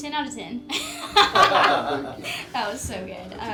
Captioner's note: all laugh